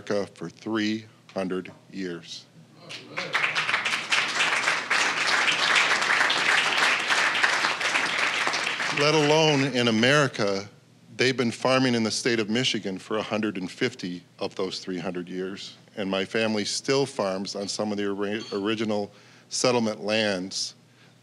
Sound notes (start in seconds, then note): 2.9 applause